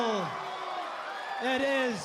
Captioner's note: crowd cheering